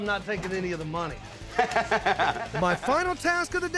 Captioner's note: chuckling